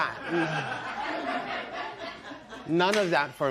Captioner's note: laughter